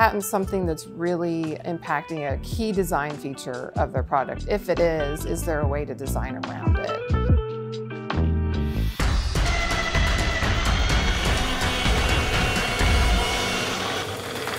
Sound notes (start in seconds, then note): 6.9 mellow music; 7.9 dramatic music begins; 9.1 tools buzzing